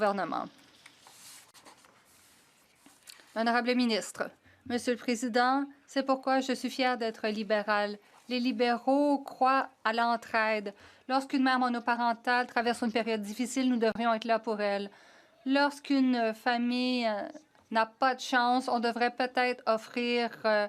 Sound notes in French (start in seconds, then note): 8.3 voix de l'interprète